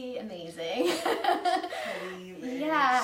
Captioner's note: laughing